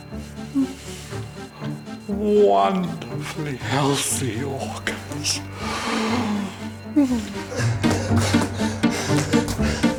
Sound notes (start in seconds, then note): 5.5 sighs; 7.9 dramatic music